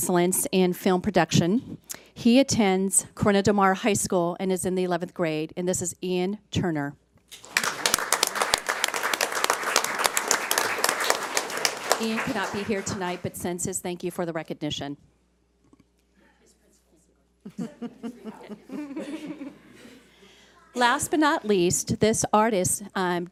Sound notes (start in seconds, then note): 7.3 audience applauds